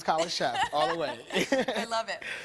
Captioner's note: laughing